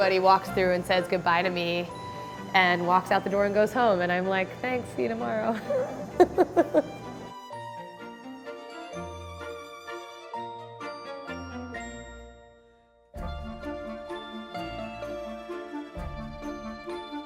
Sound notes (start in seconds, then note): 5.6 laughs; 8.1 playful orchestral music